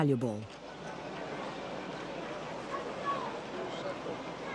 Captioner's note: people chattering